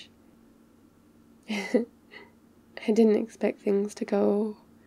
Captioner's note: laughs